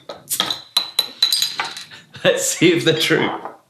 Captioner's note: bursting of air